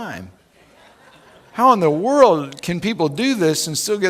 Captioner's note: laughing